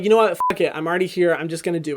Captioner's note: beep